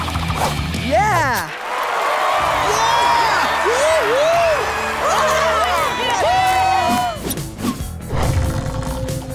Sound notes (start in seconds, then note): 1.2 audience cheering